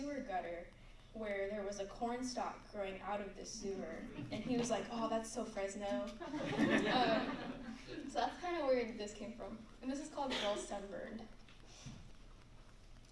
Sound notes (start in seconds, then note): 6.2 laughter